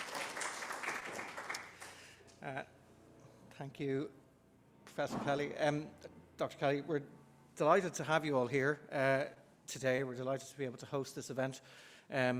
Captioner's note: applause